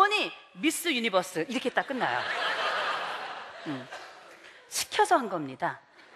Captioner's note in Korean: 웃음